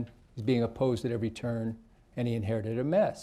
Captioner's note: none